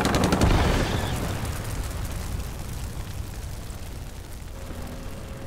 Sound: fire crackling; tanks rumbling

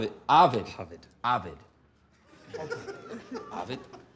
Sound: laughter

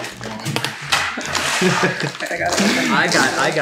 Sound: laughing

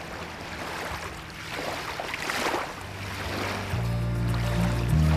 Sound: waves slashing

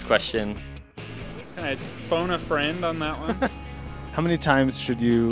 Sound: laughing

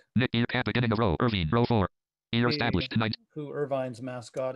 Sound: screen reader reads fast

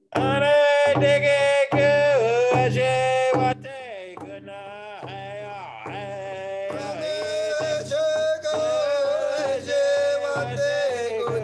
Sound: drum beating; indigenous language chanting

